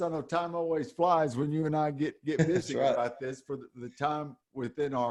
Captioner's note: chuckles